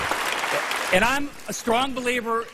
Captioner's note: applause